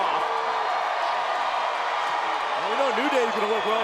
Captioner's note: crowd cheers